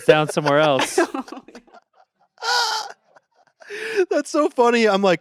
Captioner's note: everyone laughs